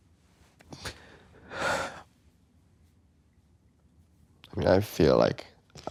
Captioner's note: sighing